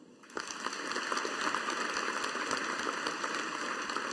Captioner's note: audience applauding